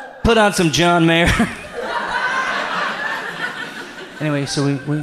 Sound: audience laughs

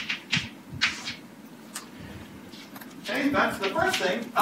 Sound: chalk writing on chalkboard

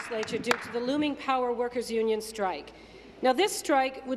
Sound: applause

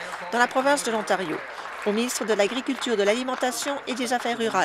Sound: applause

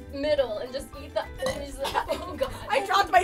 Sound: gagging

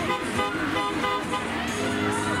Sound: car horn

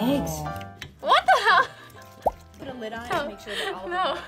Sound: laughs

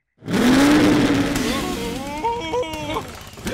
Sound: revs engine

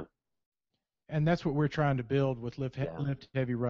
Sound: voiceover

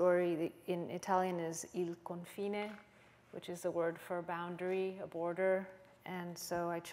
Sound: italian

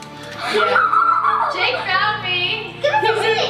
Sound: laughs

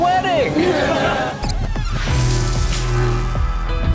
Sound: everyone laughs; upbeat music

